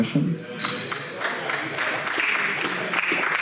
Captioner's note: clapping